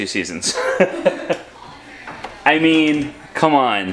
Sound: laughter

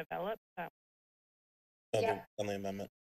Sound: speaks faintly

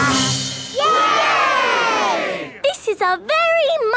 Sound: all cheering

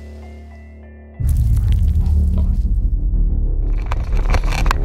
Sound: boar grunting

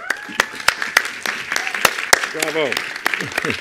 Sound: attendees applauding

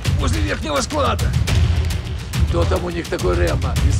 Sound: gunshots

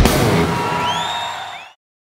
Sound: crowd cheering

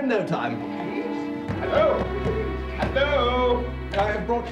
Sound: banging

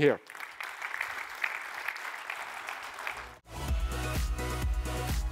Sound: applause

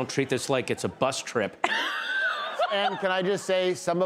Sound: laughs

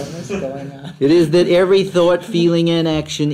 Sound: laughs

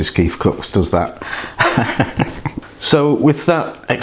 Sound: laughs

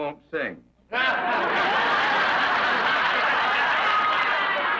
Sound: audience laughs

